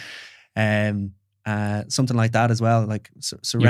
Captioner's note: laughs